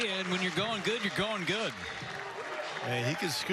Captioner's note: cheers and applause